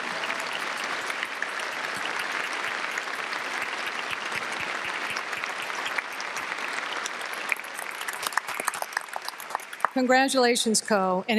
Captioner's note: applause